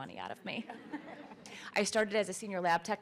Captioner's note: laughter